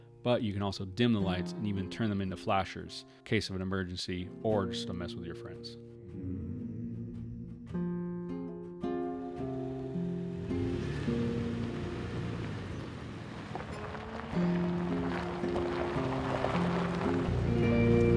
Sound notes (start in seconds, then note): 6.6 upbeat country music; 9.6 vehicle engine roaring; 14.4 upbeat country music